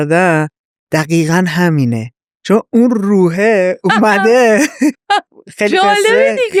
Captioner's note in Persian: خنده